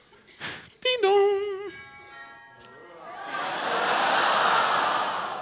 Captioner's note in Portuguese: campainha